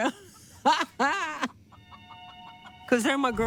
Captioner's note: laughter